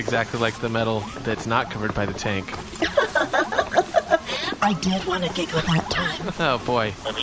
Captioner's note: giggles